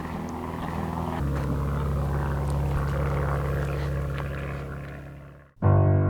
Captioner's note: plane engine roaring; upbeat classical music